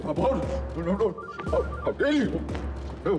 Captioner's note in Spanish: suena el celular; habla entre dientes